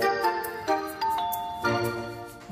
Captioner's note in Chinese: 門鈴聲